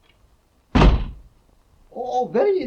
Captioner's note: door thudding